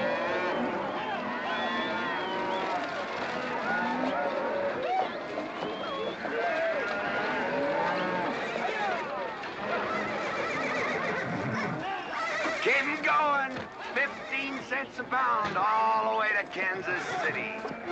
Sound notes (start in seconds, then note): 0.0 mooing & whistling; 9.6 horse neighing